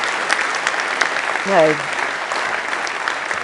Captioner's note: applause